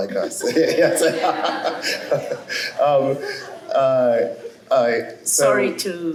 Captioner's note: laughter